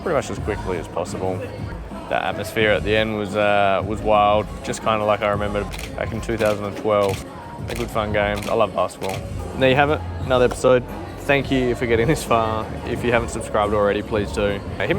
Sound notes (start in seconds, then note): 7.0 camera shutter clicking; 10.6 hands clap